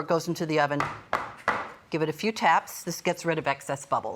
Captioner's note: tapping